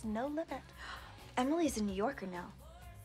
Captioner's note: none